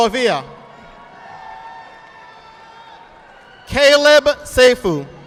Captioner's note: audience applauding